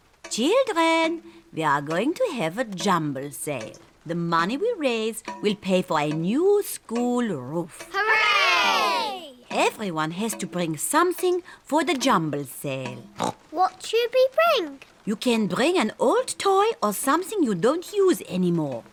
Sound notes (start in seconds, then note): 13.2 oinks